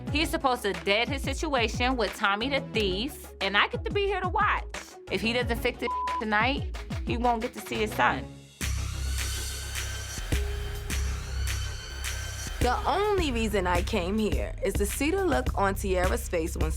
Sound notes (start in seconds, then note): 5.8 beep